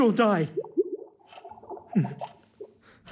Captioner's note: water swirling